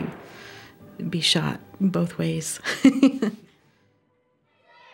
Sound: laughs

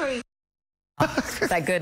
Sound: laughter

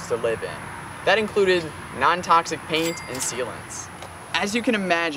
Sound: cash register ding

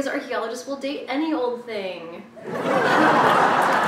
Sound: raucous applause even though this was a terrible joke

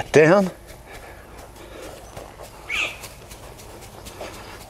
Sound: soil crunches

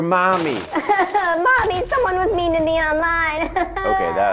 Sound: cries

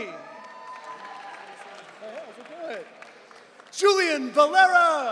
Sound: audience cheering

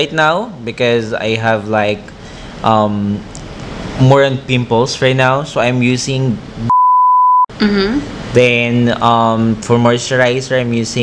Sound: beep

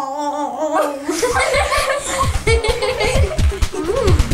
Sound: laughter

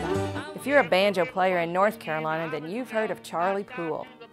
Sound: voice-over

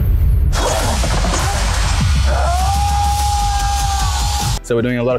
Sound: tense music; screaming

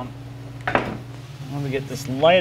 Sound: metal thumping

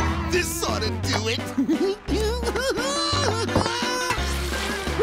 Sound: giggling

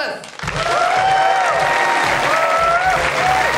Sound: applause

